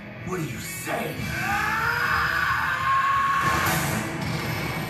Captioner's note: Asta yells